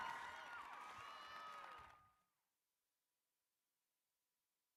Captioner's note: applause